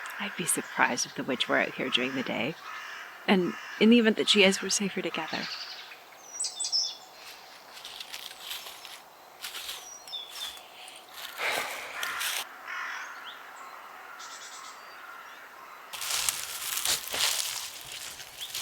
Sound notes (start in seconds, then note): none